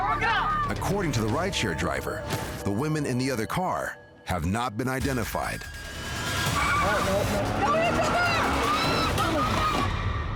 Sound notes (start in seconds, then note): 6.4 tires screech; 8.4 loud crash